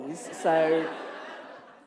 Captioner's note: laughter